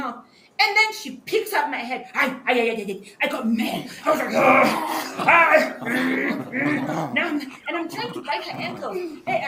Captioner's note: growls